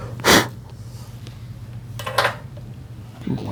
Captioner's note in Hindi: नाक से की जाने वाली आवाज़